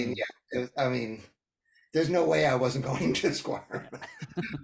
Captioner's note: laugh